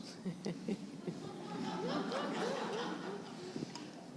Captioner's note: laughter